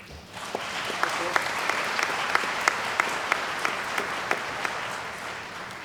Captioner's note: applause